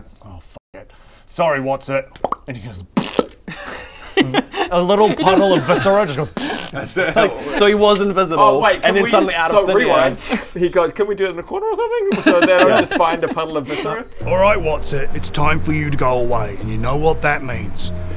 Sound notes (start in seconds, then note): 2.1 pop; 2.9 pffpft; 6.4 pfpffff